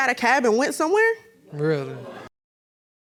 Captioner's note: audience moans